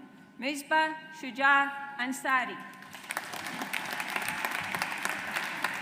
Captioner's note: audience applauds